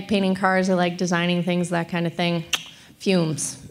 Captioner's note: clicks tongue